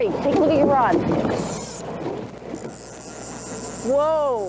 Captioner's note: water sounds